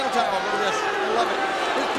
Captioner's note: crowd booing